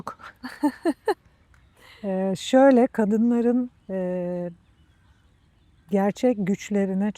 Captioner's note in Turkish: kahkaha